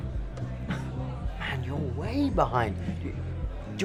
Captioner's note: scoffs